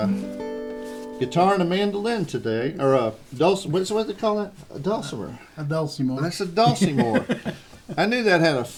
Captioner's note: laughter